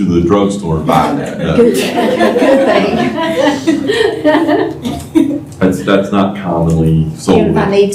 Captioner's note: laughter